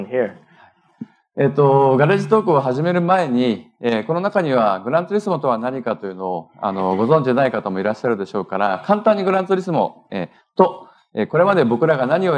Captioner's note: speaking japanese